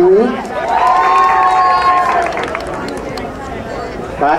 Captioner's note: crowd cheering